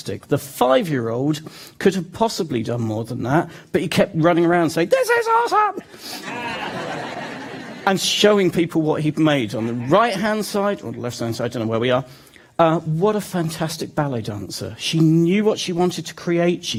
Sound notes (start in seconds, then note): 6.1 laughter